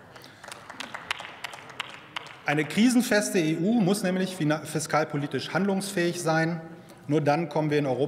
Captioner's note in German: Beifall bei Abgeordneten der SPD